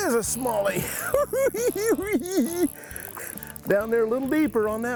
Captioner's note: cackling